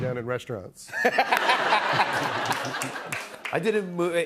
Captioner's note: laughter